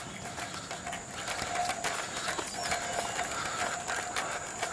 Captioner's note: jadeando